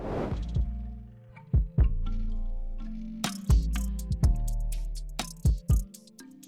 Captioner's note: graphic swooshing; upbeat music